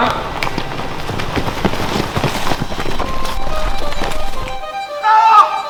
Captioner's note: run noise